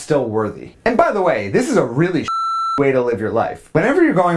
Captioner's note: beep